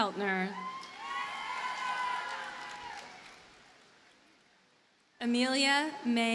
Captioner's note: audience cheers and applauds